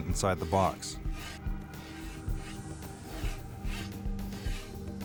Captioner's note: saw scrapping